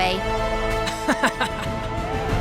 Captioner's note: laughs